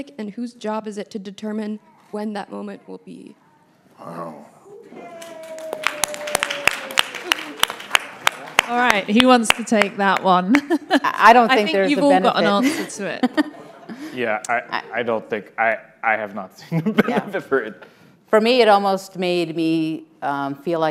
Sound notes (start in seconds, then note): 4.9 all clapping; 16.7 laughs